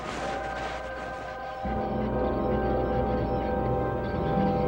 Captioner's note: roof creaks